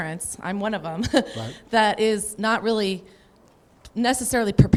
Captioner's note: laughs